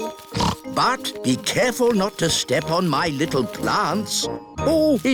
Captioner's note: snorts